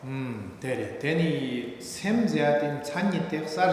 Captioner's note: speaking tibetan